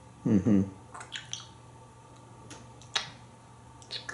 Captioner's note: more eating sounds